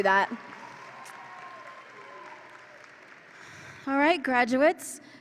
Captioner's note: audience applauds and cheers